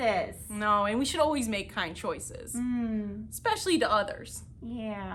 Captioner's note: murmurs agreement